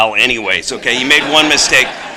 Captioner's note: laughter